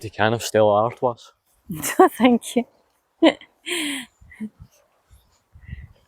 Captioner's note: laughter